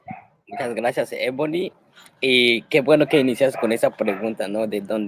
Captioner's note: speaking Spanish